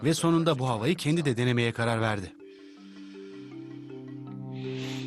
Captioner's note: inhales; exhales